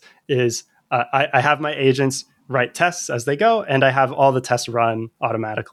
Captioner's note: uh